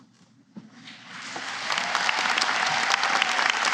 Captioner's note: applause